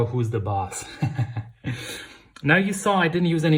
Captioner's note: laughing